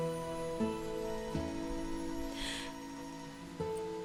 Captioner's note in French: sonnerie de téléphone